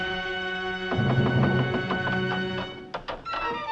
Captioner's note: knocking continues